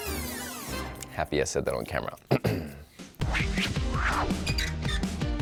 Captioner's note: clears throat; upbeat music